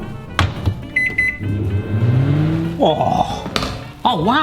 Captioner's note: microwave beeps and whirs